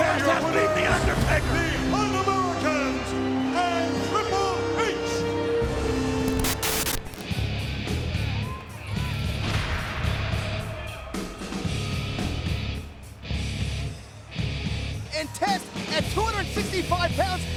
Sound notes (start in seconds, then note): 6.2 static crackling; 6.6 rock music; 9.6 graphic thuds